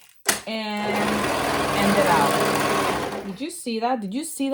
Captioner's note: machine whirring